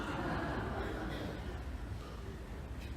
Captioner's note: light laughter